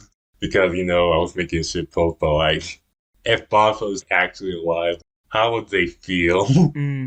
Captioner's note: laughs